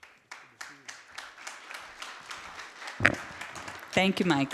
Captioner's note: applause